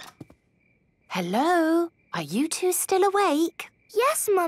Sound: whisper

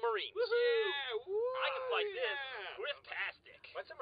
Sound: cheering

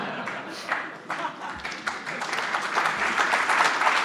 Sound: applause

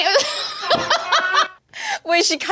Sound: laughing

